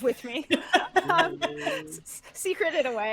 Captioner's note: laughing